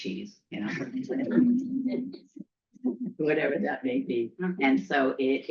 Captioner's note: laughter